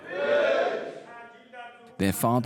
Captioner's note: men praying